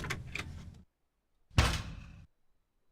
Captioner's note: door closes